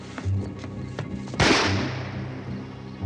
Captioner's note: gunshot